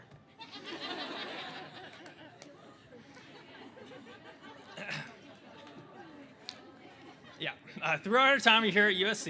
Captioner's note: laughter